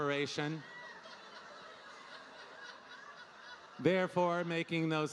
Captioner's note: audience laughing